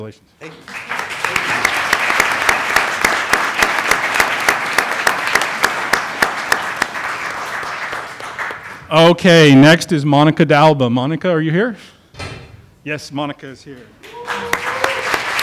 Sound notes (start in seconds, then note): 5.5 applause